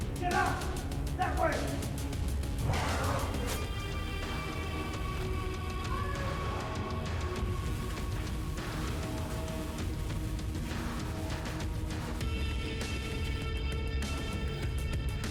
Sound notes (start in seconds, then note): 2.6 knife thudding; 2.6 creature grunting; 4.4 mellow upbeat music; 9.5 mellow upbeat music